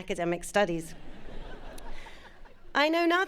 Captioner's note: audience laughing